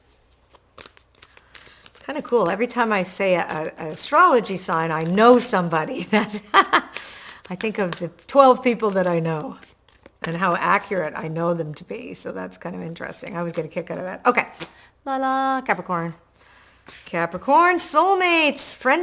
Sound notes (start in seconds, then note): 6.1 laughs